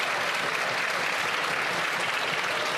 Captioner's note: some Applause